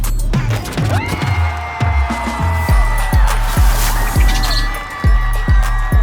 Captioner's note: screaming; clapping